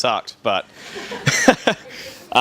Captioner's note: laughing